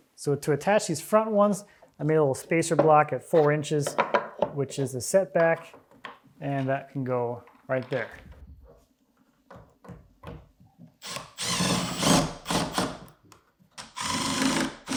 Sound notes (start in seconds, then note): 11.0 drill whirring